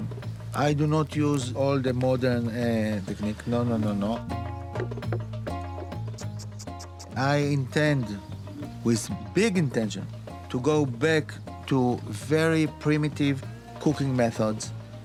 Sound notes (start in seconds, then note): 4.7 board clattering